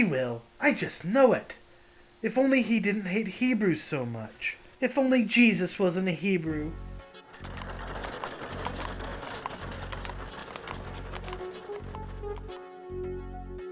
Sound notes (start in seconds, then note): 7.2 hooves clopping; 11.1 tense music